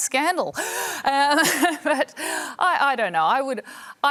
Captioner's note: laughs